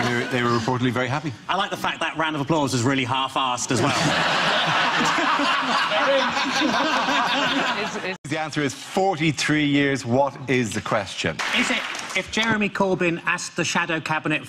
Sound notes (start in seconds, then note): 3.7 audience laughs